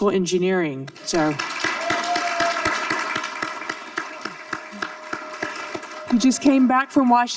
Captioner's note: audience cheering and applauding